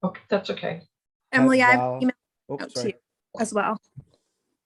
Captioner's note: murmurs